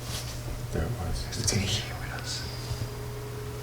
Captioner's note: whispers